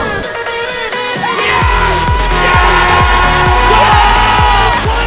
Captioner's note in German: schreie